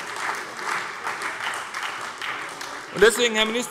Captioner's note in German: Beifall bei der SPD